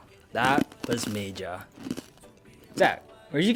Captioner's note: crunching